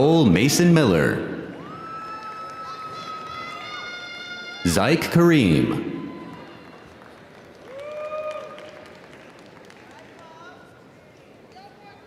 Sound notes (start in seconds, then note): 1.6 audience cheering; 1.6 audience applauding